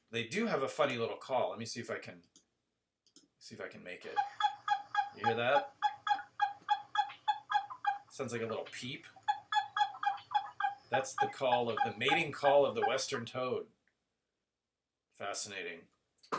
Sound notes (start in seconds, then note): 4.1 toad call; 9.2 toad call